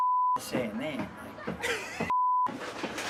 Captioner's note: beep; beep